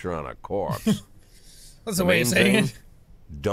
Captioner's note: chuckes